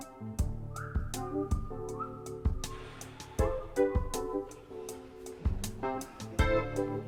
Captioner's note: upbeat cheerful music; Tony whistling